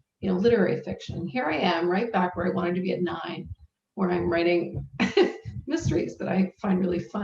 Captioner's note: laughs